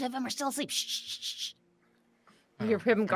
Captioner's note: Neb shushes